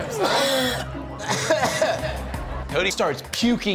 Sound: coughs

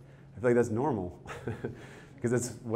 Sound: chuckles

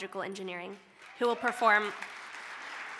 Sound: applause

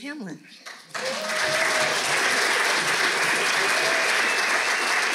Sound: audience clapping

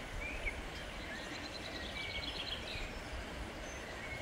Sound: birds chirping

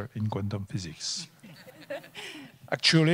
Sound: panel laughing

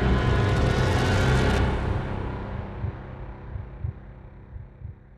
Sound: heart beat thumping

